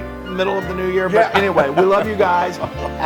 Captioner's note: laugh